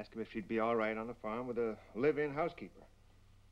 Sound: exhales

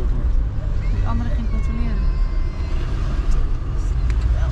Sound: engine rumbling

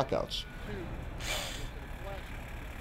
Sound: drilling

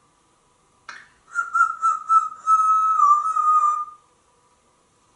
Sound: whistling

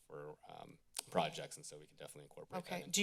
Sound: clicks tongue

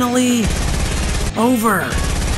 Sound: gun shots firing

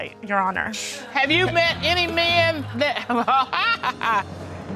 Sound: laughs

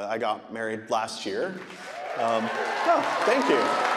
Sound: audience applauding; audience cheering

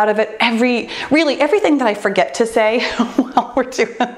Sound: laughs

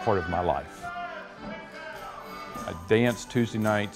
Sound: man hollering

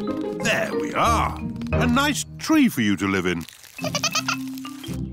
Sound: giggling

